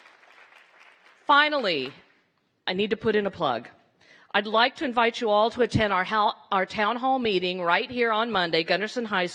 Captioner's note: applause